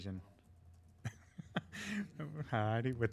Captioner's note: laughing